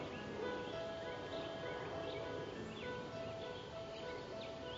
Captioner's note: jet overhead